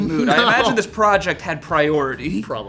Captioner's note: laughing